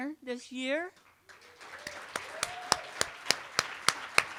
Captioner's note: applause